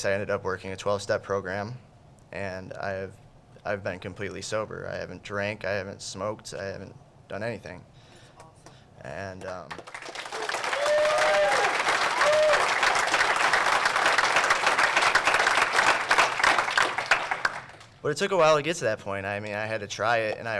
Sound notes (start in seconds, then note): 9.4 clapping